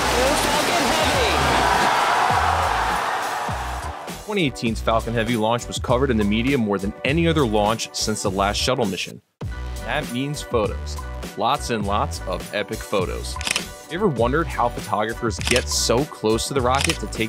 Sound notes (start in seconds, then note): 2.8 cheering